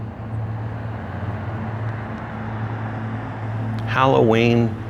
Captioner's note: drone sound increases